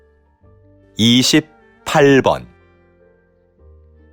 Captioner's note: Korean audio